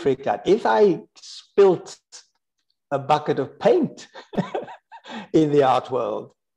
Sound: laughs

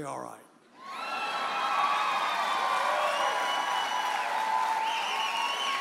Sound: audience hollers and applauds

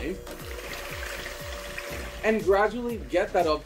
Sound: mixer whirs

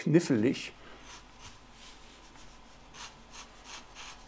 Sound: scraping drawing noises

